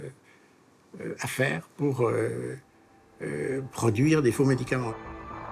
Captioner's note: French spoken audio